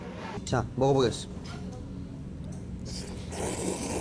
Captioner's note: starts slurping